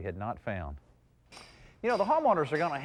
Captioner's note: carpenter hammering